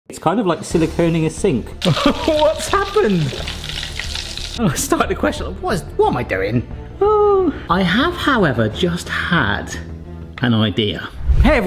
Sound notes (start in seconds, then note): 1.7 fryer sizzling; 7.1 sighs